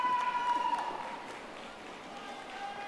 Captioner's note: audience applauding